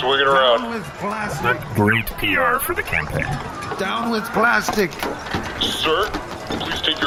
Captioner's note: another character enters, yelling